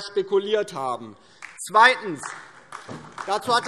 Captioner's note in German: Beifall DIE LINKE